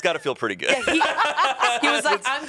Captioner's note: everyone laughs